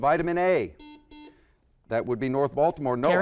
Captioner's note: buzzer